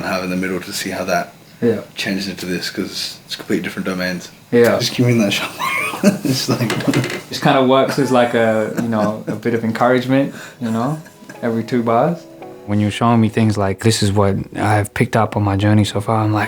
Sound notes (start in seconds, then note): 6.9 laughs